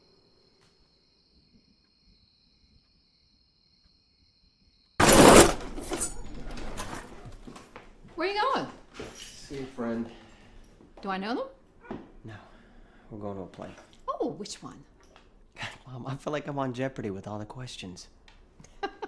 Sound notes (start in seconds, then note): 5.0 door clattering; 5.0 knife clanging